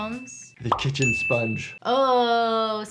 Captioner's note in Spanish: Campana sonando